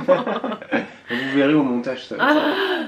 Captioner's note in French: rires